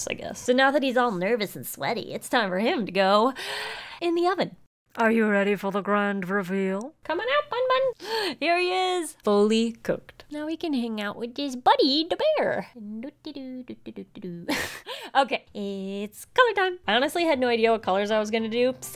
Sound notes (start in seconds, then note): 12.4 laughs